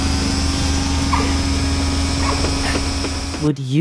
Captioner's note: Highwing chirping insistently